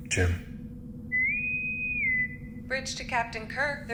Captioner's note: intercom whistle